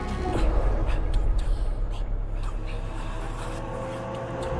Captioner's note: dramatic music continues; voices whispering